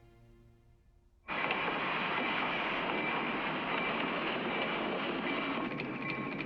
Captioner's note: crossing signal bell ringing